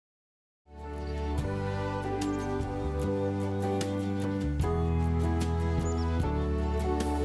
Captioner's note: warm music; birds chirping